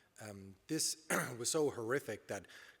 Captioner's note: clears throat